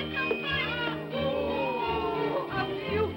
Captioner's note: excited vocal sounds